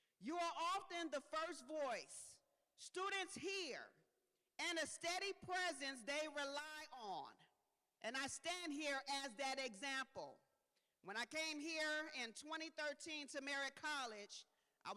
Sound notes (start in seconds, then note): none